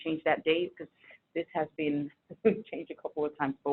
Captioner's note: chuckles